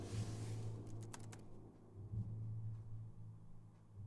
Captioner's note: tense music begins; keyboard clicking; tense music continues